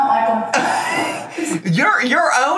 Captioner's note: laughs